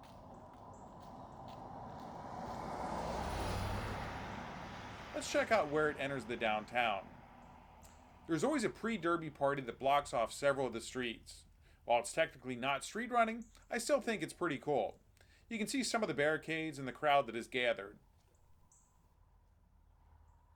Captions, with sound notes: [wind howling] [wind howling] [wind howling] [wind howling] Let's check out where it enters the downtown. There's always a pre-derby party that blocks off several of the streets. While it's technically not street running, I still think it's pretty cool. You can see some of the barricades and